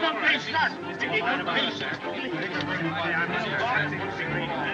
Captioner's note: all Chattering